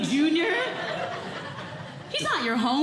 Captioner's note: audience Laughing